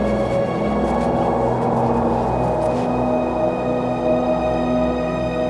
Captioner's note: wind howling